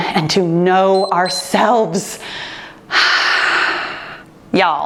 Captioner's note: timer beeps